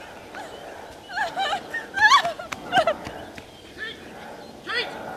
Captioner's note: Kate crying